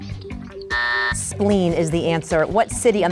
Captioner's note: bell buzzes